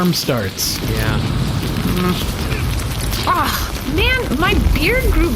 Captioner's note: upset and scratching